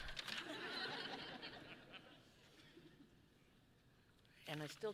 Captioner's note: audience laughing